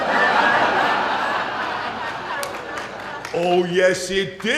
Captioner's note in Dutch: Gelach